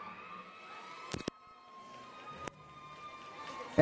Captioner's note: cheering and Applause